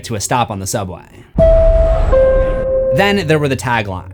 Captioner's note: chime-chime